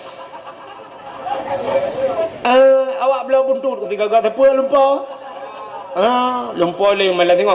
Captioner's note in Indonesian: tertawa